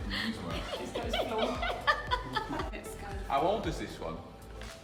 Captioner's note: laughs